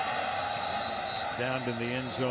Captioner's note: whistle blows